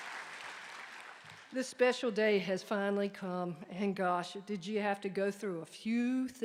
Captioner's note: applause